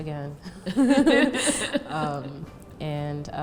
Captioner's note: laughs